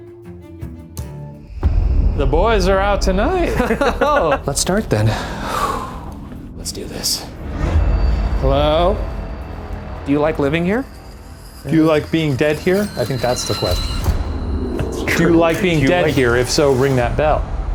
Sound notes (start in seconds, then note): 3.5 laughs